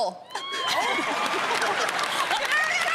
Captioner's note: laughter; cheers and applause